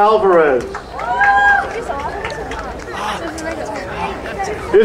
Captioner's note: crowd cheering